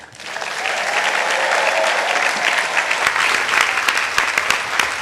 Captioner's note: audience applauding